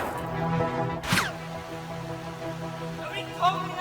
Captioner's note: gunshot in water